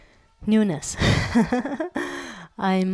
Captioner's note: laugh